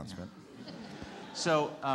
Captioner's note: audience laughs